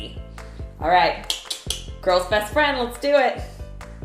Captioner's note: clicks tongue